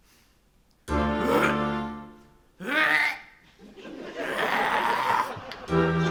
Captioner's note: Haman retches